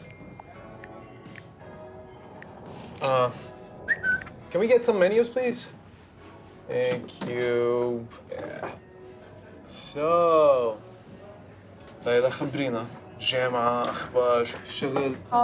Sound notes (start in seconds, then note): 0.1 gentle music; 3.8 whistles; 12.3 speaking in Arabic